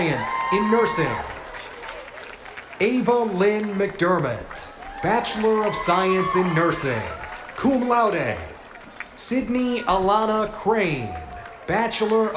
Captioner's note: cheers and applause